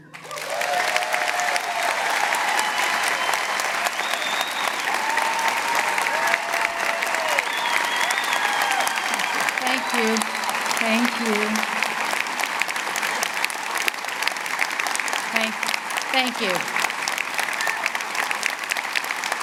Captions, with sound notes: [ Applause and Cheers ] >> Thank you. Thank you. [ Applause ] Thank you.